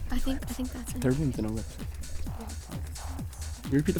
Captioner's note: wispering